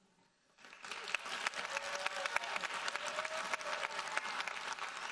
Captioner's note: audience applauding